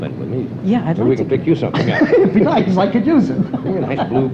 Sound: laughter

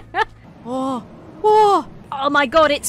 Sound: chuckles; gasps

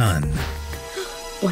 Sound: gasp

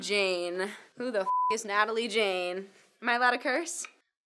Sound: beep

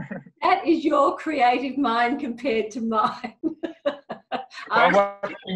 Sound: laughs

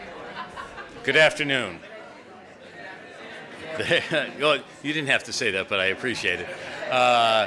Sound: laughs

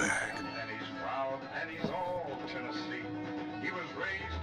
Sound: tv playing in the background

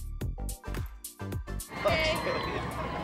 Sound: laughs

